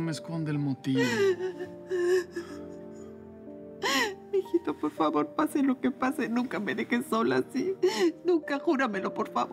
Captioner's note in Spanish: Sollozos